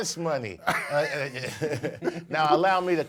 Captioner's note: laughs